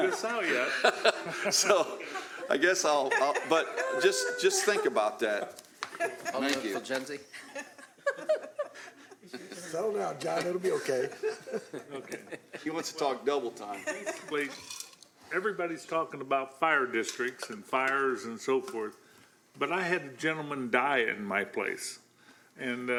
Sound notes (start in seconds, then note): 7.2 laughter